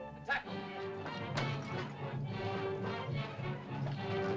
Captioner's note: sentimental music; suspenseful music; Tumak speaks in caveman language; suspenseful music